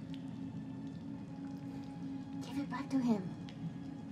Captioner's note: whispers